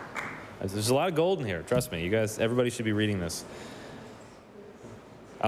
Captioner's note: applause